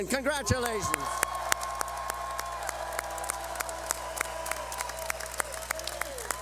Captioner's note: cheering